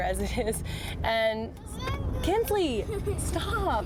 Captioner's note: whining indistinctly